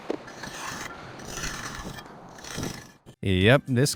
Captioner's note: cement swooshes